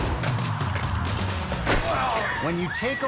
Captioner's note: logo swooshing; machinery beeping; lively music; man thudding